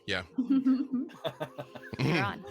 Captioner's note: group laughing